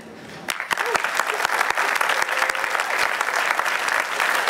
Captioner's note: applause